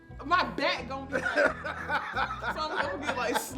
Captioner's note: man laughing